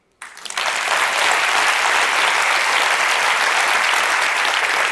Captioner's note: applause